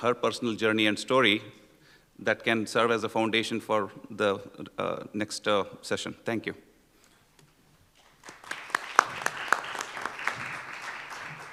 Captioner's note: applause